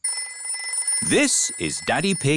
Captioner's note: phone rings